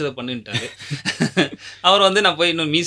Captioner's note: laughter